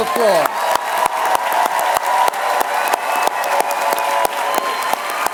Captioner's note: applause